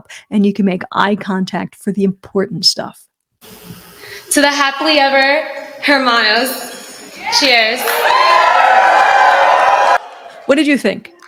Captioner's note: cheering